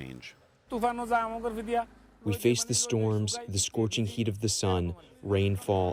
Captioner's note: through translator